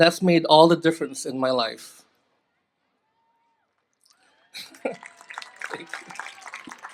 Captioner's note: applause